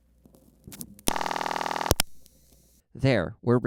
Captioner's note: ringback tone